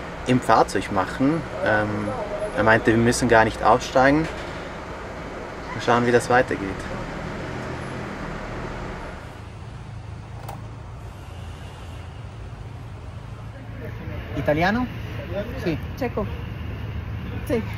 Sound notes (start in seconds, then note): 13.9 in Spanish